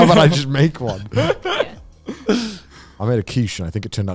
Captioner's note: all laughing